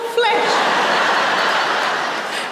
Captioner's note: laughter